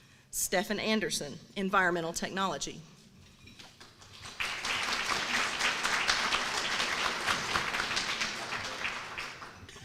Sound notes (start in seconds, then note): 3.7 applause